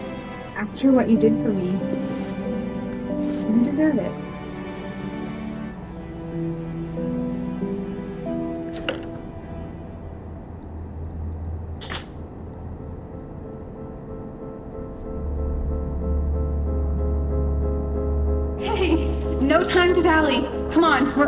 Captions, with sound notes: After what you did for me, you deserve it (Necklace jingles) Hey, no time to dally. come on,